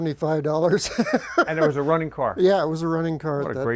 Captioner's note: laughing